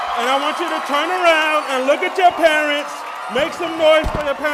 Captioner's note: applause